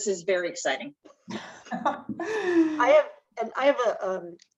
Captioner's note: laughs